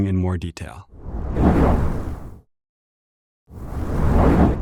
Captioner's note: whoosh